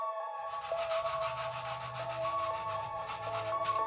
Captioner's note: sandpaper rustling